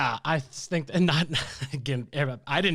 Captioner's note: laughs